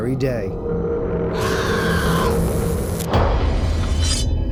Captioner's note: screaming